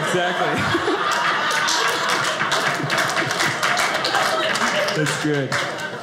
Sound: audience applauding

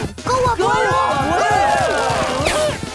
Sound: cheering

